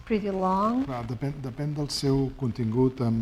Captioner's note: speaking spanish